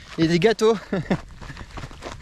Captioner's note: laugh